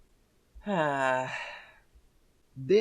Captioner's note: sigh